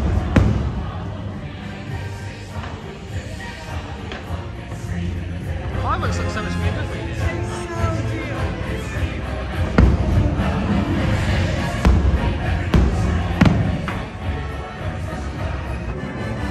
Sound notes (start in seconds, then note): 9.5 fireworks booming and cracking; 13.0 bright frenetic music